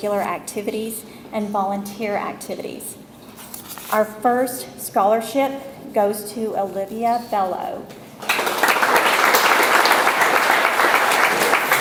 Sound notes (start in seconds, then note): 8.2 audience applauds